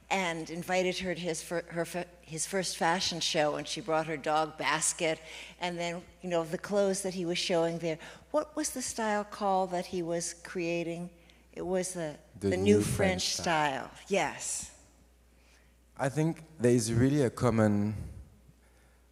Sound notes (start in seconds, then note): 12.4 spoken in sync